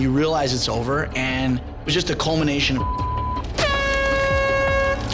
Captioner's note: beep; horn blows